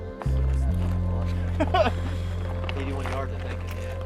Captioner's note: person laughing